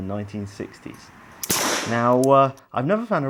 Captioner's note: gun fires